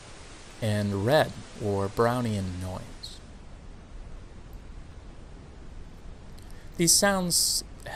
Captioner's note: static sound deepens again in pitch, now also quieter